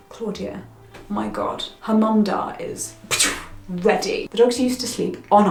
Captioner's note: blows